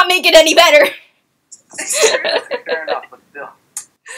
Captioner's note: laughing